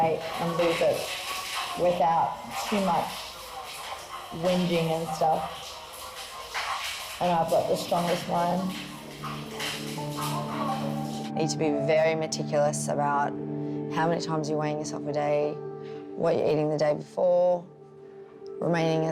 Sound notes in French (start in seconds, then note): none